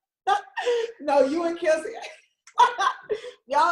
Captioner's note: laughs; laughs